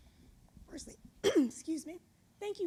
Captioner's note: clears throat